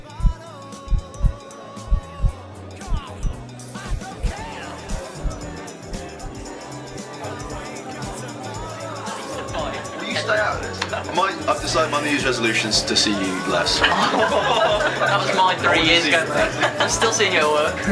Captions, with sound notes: [pub amnience returns] I've decided my New Year's resolution is to see you less! [all laughing]